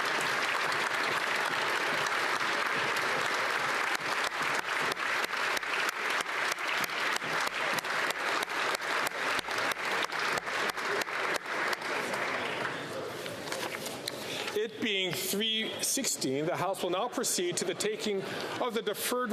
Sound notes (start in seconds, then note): 7.1 applause